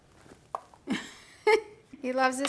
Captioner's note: laughing